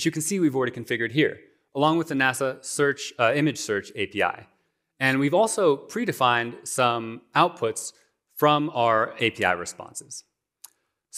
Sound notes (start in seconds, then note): none